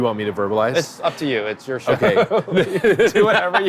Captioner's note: both laughing